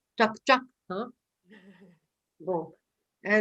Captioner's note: laughs